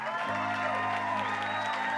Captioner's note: cheers